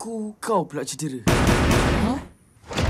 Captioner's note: loud knocking